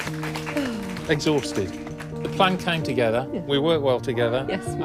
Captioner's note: people applauding